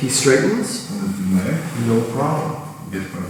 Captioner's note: speaking in a foreign language